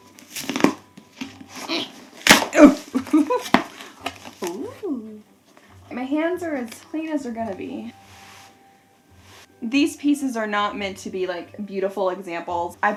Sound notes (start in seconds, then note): 2.1 grunting